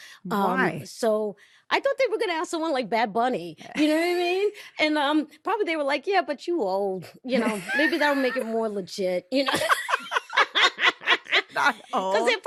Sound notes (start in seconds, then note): 9.4 both laughing